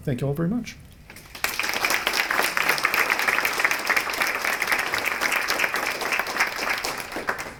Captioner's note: applause